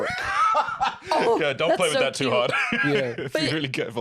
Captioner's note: laughs